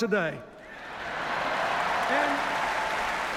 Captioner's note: cheers, applause